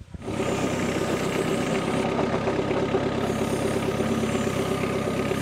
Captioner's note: engine revving